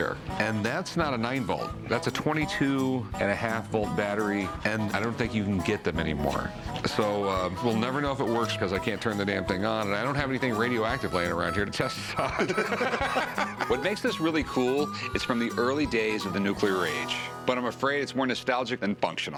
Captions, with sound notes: And that's not a 9-volt. That's a 22-and-1/2-volt battery. And I don't think you can get them any more. So we'll never know if it works, because I can't turn the damn thing on. And I don't have anything radioactive laying around here to test this on. [laughter] What makes this really cool, it's from the early days of the nuclear age, but I'm afraid it's more nostalgic than functional.